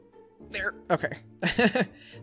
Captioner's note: laughs